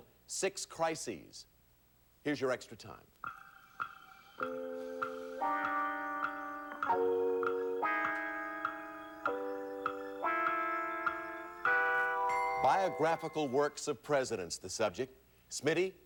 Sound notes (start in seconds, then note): 4.9 clock ticking